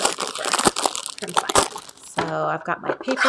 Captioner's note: plastic rustling